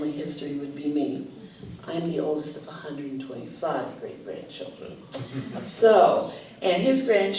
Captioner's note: laughter